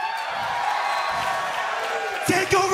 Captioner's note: crowd cheering